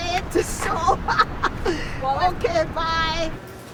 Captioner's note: laughs